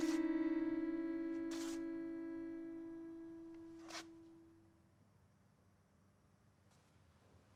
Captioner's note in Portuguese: chinelos arrastando; silêncio